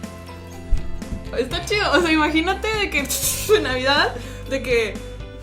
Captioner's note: pssshhh pshhh